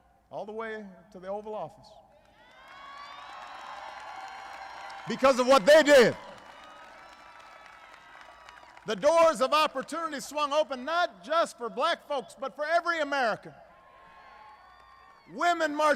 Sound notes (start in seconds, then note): 9.3 applause